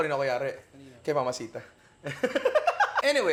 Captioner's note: laughs